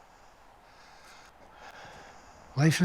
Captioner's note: breathing heavily